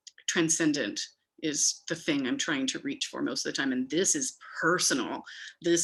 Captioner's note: none